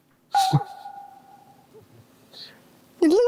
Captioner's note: laughing